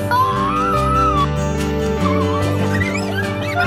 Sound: screams

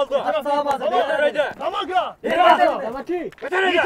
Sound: in Tajik

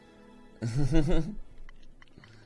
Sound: chuckle

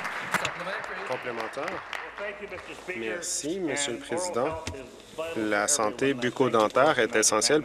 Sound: applause

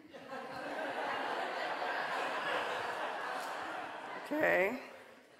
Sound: audience laughing

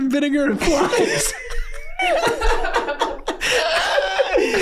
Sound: everyone laughing

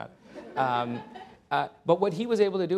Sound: laughter

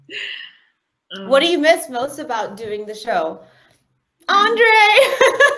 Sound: laughter

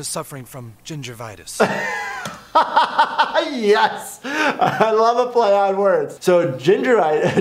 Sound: laughing

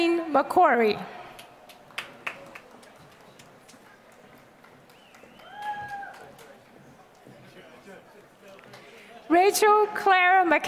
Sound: applause

